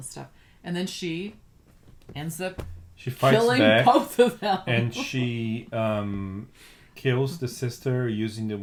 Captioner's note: laughs